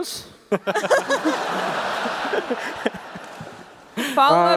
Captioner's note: laughter